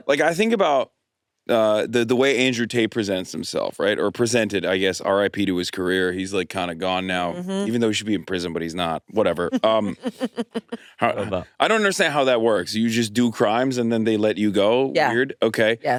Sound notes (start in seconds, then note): 9.2 laughs